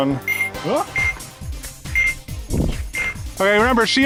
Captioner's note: Nerf blaster beeping